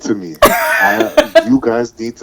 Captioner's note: laughing